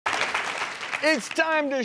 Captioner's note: audience clapping